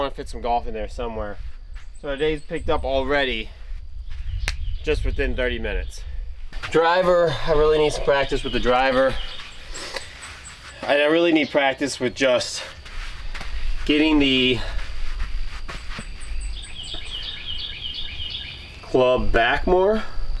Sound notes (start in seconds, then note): 4.4 clap